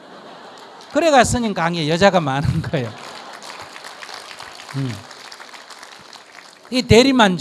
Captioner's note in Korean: 청중 웃음; 청중 박수